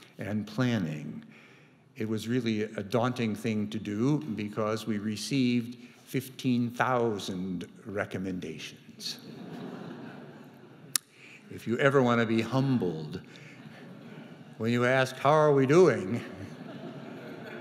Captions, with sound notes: and planning, it was really a daunting thing to do because we received 15,000 recommendations. (audience chuckling) If you ever want to be humbled, when you ask how are we doing,